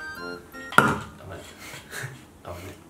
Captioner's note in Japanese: ガン！